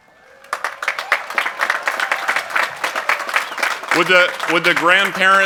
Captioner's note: cheering and applause